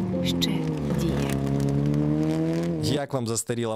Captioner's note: car engine